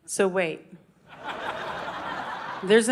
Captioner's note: audience laughing